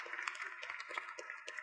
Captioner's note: applause